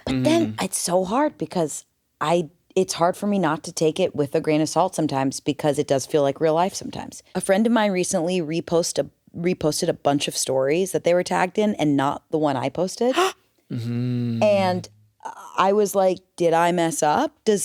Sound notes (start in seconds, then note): 13.4 gasps